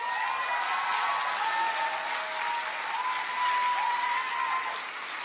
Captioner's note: audience cheers and applauds